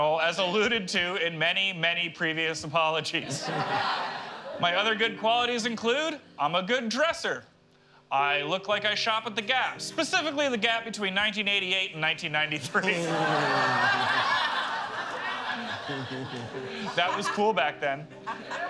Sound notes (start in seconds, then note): 12.6 laughter